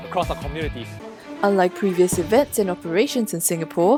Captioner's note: voiceover